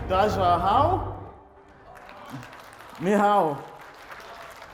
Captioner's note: speaks in foreign language